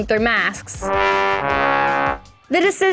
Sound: horn blows sadly

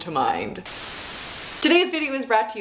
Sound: static plays

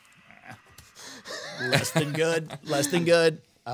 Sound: makes funny noise; group chuckling

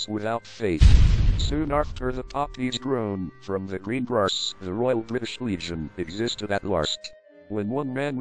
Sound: explosion

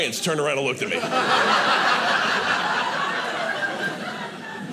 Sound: audience laughing

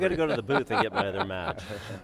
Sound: laughter

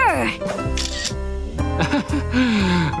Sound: chuckling

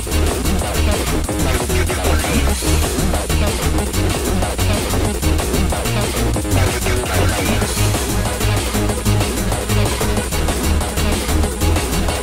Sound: sweet voice

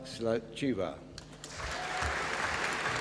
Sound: applause

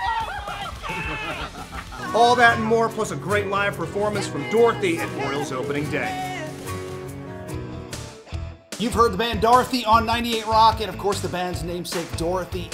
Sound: laughter

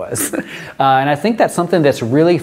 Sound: chuckles

